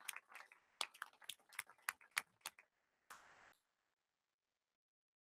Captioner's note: audience applauding